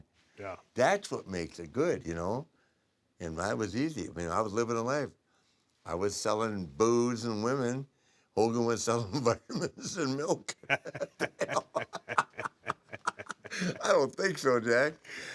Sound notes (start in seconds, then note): 10.4 laugh